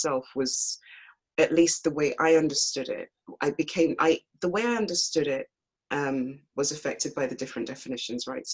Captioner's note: none